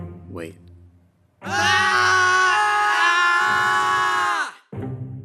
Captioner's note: screams